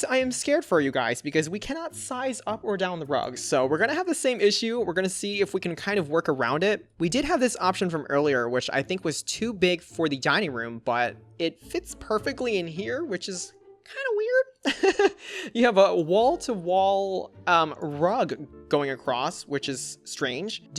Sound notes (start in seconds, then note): 14.6 laughs